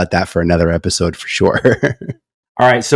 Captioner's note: laughs